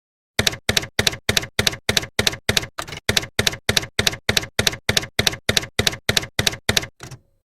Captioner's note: typewriter keys clacking